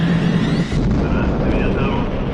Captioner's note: sound of explosions